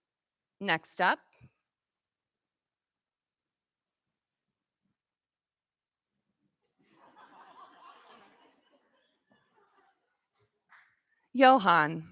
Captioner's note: laughter